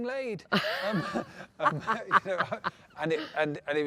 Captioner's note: both laugh